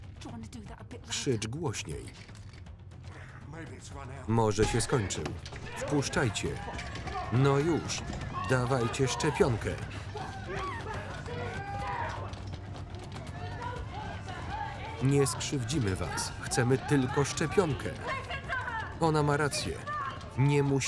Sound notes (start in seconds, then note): 6.5 mob shouting; 7.1 mob screaming and baying